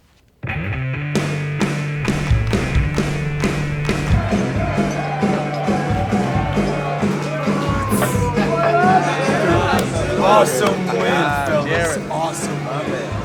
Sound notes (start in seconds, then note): 0.5 rhythmic hard rock music; 4.1 group shouting and chattering